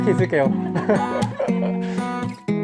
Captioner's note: kkkkkkkkkkk